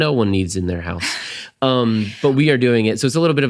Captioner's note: laughs